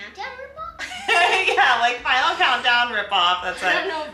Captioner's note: laughs